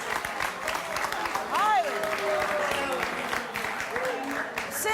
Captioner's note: audience applauding